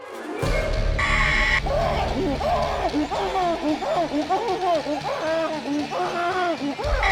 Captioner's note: dramatic music; Danny screams; woman screeches